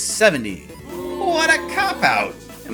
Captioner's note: crowd BOOOO